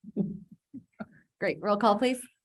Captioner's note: laughs; chuckles